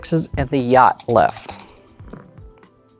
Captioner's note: dice rattling; dice rolling